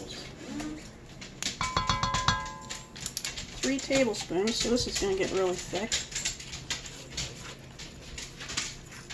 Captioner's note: clanging